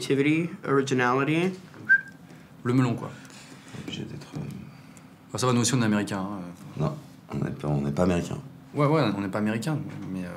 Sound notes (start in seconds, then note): 1.8 whistles